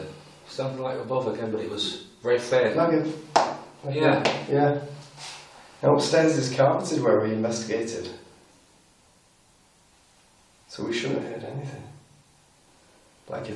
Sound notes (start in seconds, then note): 3.3 slapping